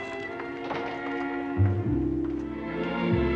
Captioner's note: door Closes